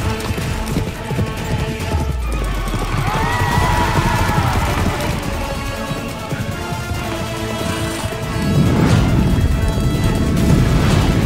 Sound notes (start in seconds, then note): 2.2 horse neighing